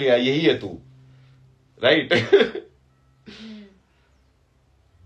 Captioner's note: हंसी